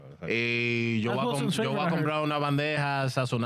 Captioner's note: speaking In Foreign Language